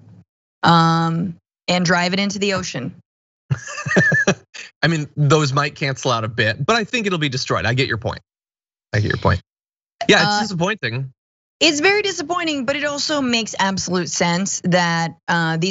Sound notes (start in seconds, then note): 3.5 laugh